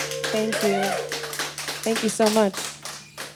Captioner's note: background clapping and cheering; background clapping fades